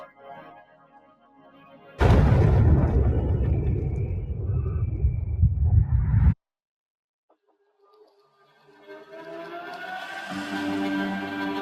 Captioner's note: explosion